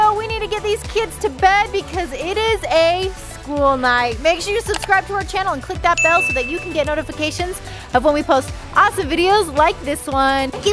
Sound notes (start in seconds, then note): 6.0 bell dings